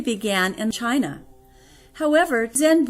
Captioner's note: audible breath